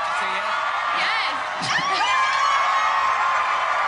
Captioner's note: cheering